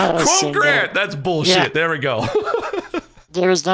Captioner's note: laughs